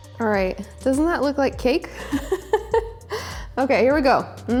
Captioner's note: laughs